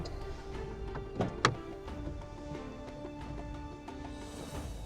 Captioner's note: car door opening